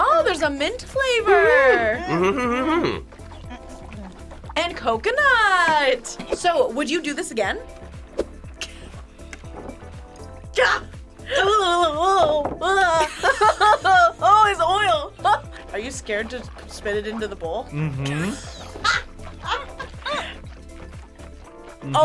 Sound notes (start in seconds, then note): 8.5 laughs; 12.7 both laugh; 17.7 React laughs